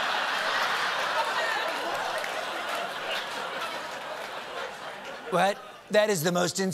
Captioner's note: laughter